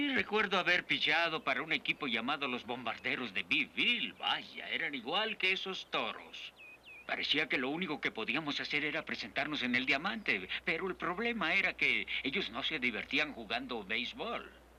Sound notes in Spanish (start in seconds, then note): none